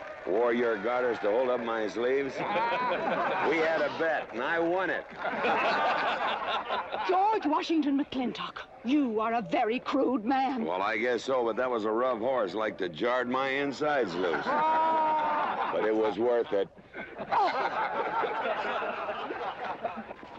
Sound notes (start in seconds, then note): 5.7 crowd laughing; 17.3 scoffing; 18.3 crowd laughing